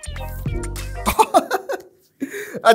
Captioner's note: laughs